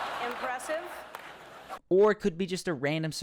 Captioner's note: audience laughs